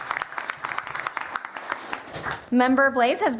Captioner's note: applause